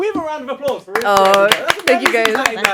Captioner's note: applaud